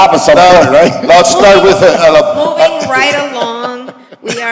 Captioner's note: laughter